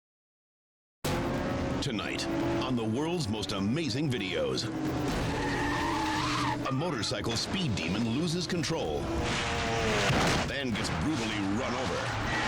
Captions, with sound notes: - Tonight on (dramatic music) "The World's Most Amazing Videos," (tires screeching) a motorcycle speed demon loses control, then gets brutally run over.